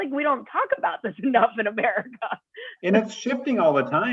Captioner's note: laughter